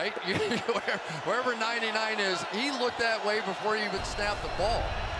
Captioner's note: laughs